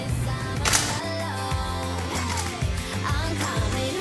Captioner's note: camera clicks